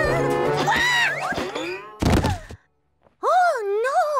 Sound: shrieks; thud

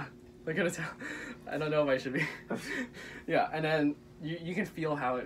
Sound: laughter

